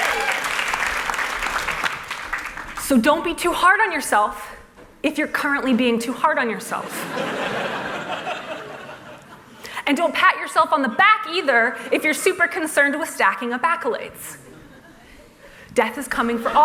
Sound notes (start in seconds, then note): 0.0 applause; 7.0 laughter